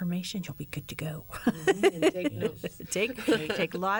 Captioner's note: laughter